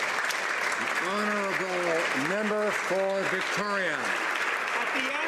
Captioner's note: applause